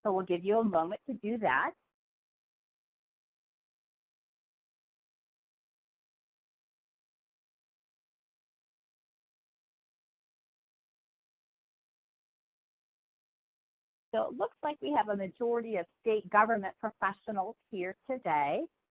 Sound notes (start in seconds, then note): 3.7 pause